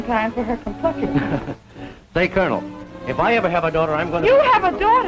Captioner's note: chuckles